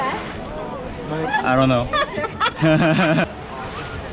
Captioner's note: nervous laugh